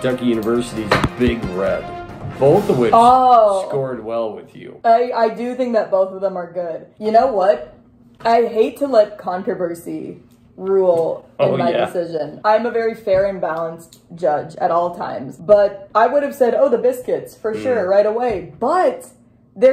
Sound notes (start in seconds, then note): 0.0 action music; 11.2 laughs